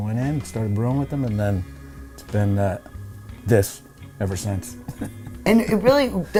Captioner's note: chuckles